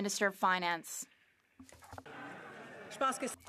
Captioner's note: some Applause